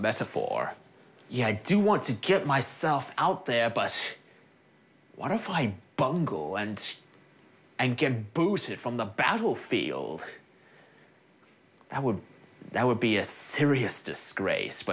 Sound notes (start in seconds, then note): none